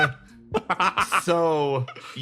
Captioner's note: cackle